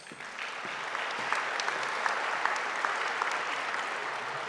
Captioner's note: audience applauding